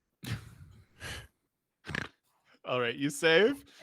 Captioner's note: snorts